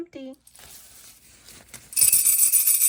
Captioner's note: paper rustling; rattles jingling